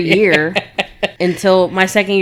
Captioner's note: laughing